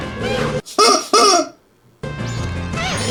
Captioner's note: chicken noises